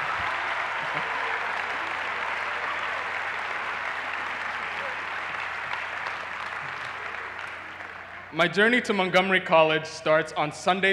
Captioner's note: cheers and applause